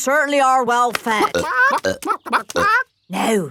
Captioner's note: clucking